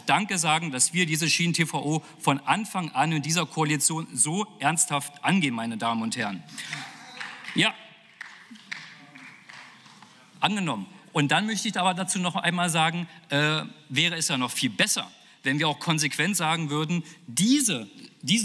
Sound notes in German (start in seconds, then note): 8.0 Beifall